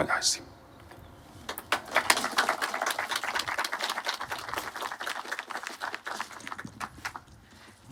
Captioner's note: aplodeja